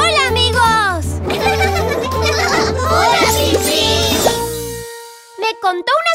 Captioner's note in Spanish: Risas